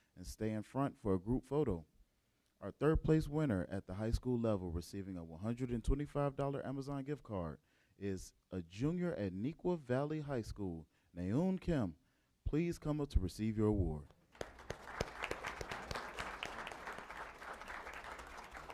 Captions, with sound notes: and stay in front for a group photo. Our third place winner at the high school level, receiving a $125 Amazon gift card, is a junior at Neuqua Valley High school, Nayon Kim. Please come up to receive your award. [APPLAUSE]